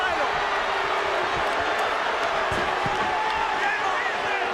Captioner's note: crowd roars